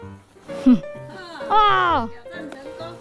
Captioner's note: excited guttural sound